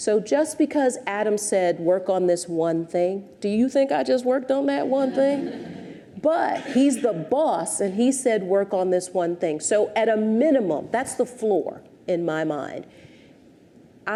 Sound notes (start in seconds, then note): 4.9 audience chuckles